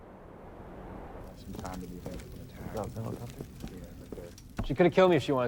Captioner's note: men chattering